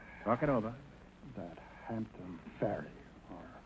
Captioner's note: whispering